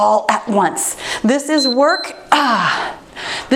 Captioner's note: timer beeps